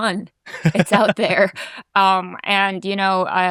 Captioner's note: laughing